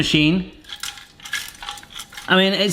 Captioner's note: pasta machine rattling